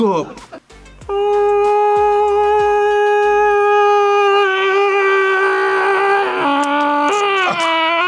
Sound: yells

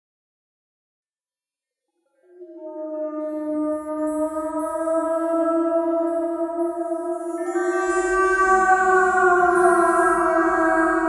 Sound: sound of ghost

